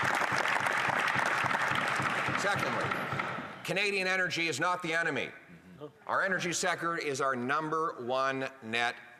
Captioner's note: applause